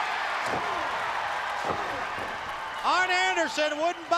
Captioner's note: crowd cheering